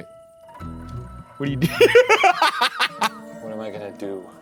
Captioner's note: playful music; laughing